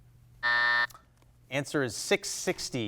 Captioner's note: buzzer blares